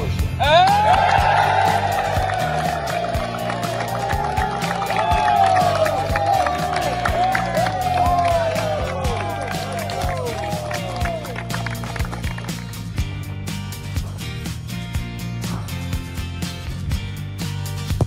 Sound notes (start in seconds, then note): 0.5 team cheers